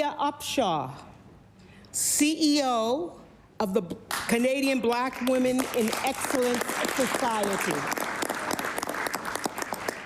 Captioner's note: applause